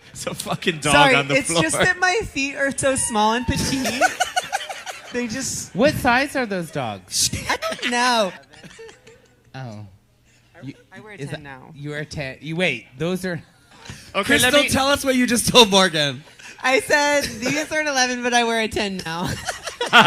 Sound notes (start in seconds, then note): 0.1 laughing; 9.9 not speaking into her mic; 19.2 laughs